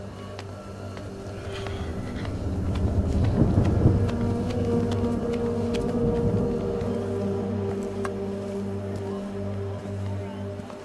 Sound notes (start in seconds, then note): 3.0 thunder rumbles; 7.8 suspenseful music